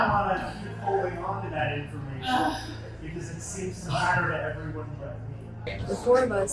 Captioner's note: sighs in disgust